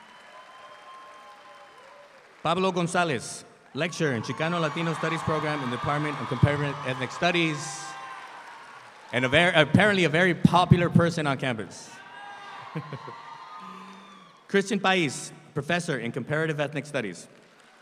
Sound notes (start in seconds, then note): 0.0 audience applauds; 12.7 laughs